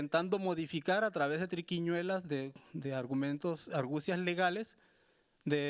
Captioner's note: speaking Spanish continues